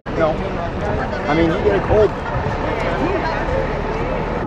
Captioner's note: crowd chattering